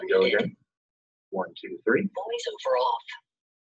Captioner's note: system voice - 'VoiceOver off'